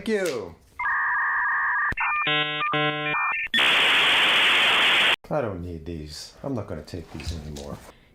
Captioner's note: dial-up internet noises